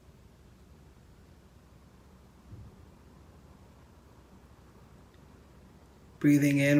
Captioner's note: silence